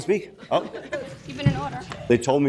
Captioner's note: people laugh